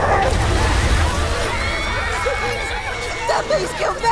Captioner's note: Kobolds scream!